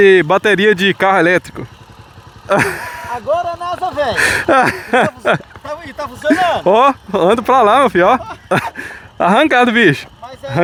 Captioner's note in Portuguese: risadas